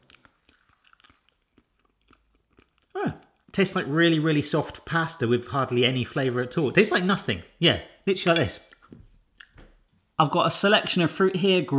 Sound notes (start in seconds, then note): 0.0 chewing; 9.5 chomping